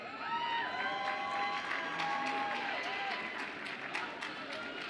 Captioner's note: audience applauds and cheers